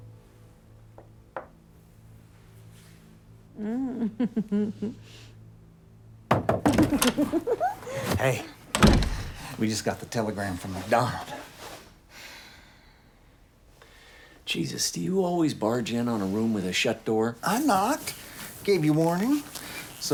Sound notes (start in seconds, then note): 3.6 giggling; 6.3 knocking